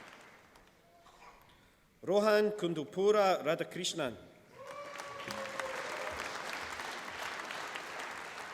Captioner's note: applause